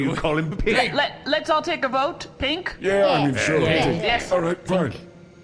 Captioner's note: everyone mutters agreements